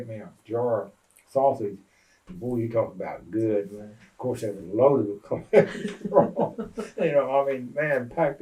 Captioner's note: laughter